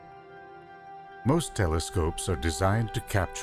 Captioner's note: voiceover